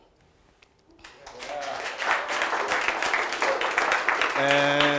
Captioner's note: audience applauds